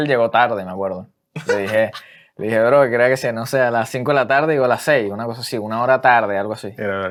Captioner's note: laughs